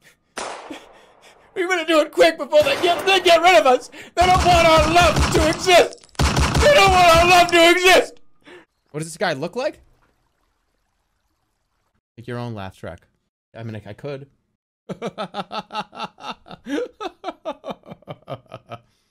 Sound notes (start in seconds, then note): 0.3 gunshot; 4.2 continues rapid-firing; 4.2 rapid-fire shots; 14.9 psychotic laugh